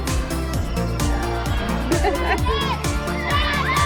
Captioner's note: children chanting